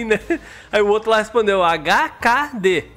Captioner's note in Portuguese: risos